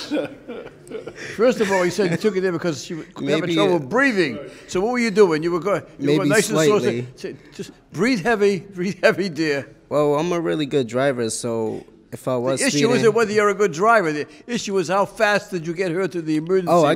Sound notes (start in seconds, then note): 0.0 laughs; 9.4 chuckles